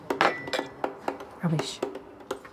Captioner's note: clang